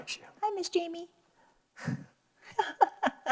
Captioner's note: laughs